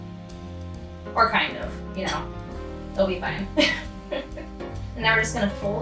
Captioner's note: laughs